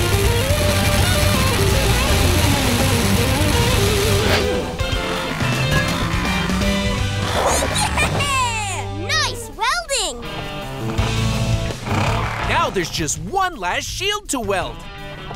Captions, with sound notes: [sparking] Yeah-heh-heh-heh! Nice welding! Now there's just one last shield to weld.